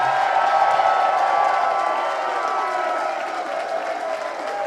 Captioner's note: crowd cheers